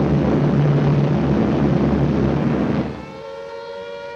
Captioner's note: planes roaring